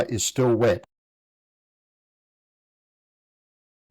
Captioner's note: silence